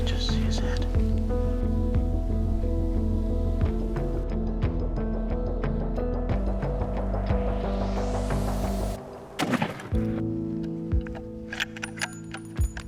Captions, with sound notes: Just see his head. (dramatic music) (gun shot)